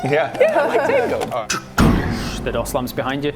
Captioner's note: door slamming sound